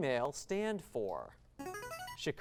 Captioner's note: device sound